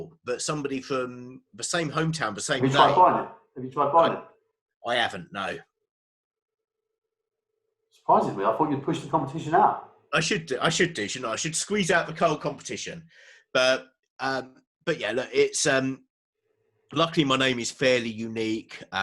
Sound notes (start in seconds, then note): 2.9 murmurs